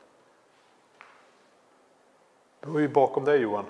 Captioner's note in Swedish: ljud av steg